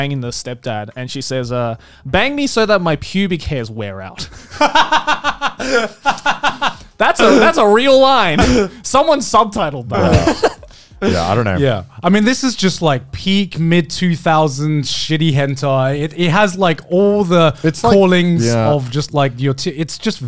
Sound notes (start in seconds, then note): 4.3 laughs